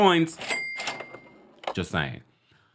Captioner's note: cash register ringing